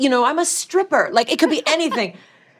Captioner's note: laughter